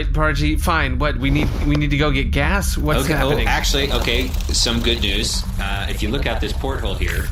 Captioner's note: flapping